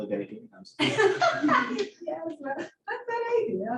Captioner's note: laughter